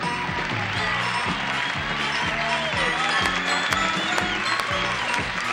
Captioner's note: applause